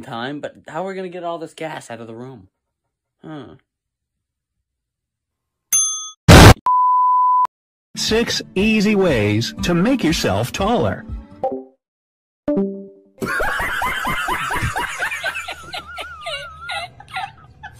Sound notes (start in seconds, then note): 5.7 idea ding sound effect; 6.3 explosion; 6.3 TV Color Bars Sound Effect